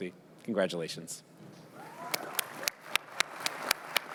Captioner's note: applause